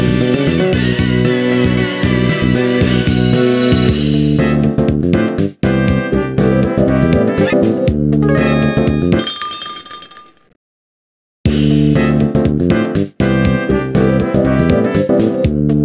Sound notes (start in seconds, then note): 8.2 tinkle tinkle